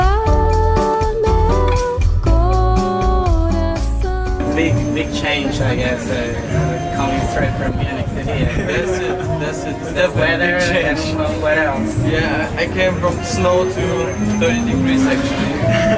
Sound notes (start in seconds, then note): 8.4 laughing